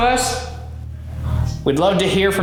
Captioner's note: voice whispers